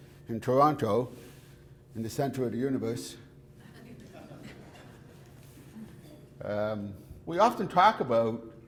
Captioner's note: audience laughter